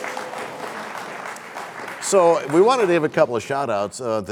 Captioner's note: applause